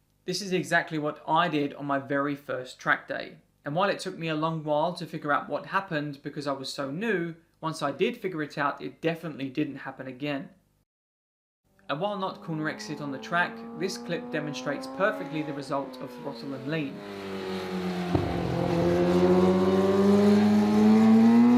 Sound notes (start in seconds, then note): 17.2 engine roaring